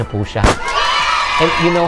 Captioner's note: cheers